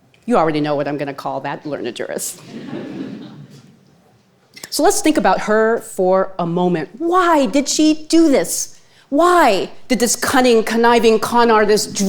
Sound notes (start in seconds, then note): 2.4 audience chuckling